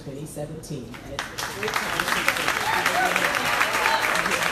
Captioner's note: crowd applauding